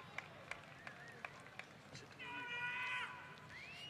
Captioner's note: applause; cheers